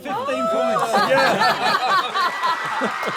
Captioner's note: laughter; applause